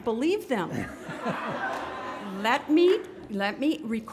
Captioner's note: graduates laughing